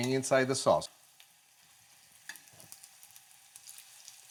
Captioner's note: sizzling